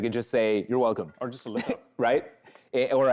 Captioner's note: chuckles